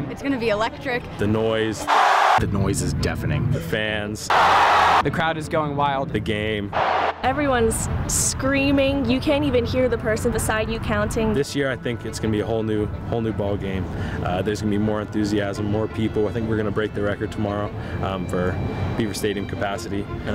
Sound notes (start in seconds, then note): 1.8 crowd cheers wildly; 4.3 crowd screams wildly; 6.7 cheering